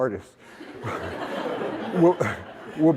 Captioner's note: laughter